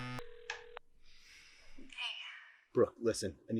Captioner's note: phone line ringing